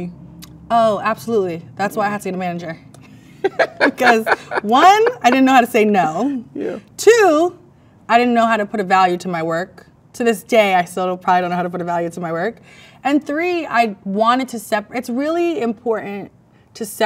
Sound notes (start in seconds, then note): 3.2 both laugh